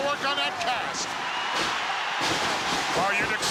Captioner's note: crowd cheers